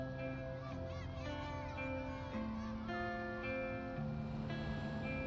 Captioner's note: kids shouting